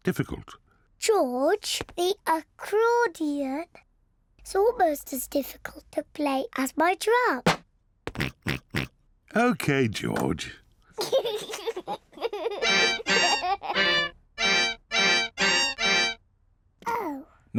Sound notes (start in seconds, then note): 7.3 snorts; 11.0 giggles; 11.8 plays accordion badly